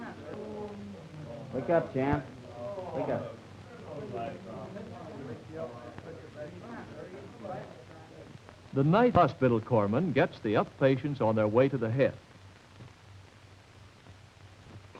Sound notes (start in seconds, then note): 4.8 patients chatter